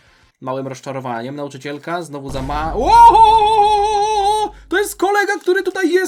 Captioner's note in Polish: krzyk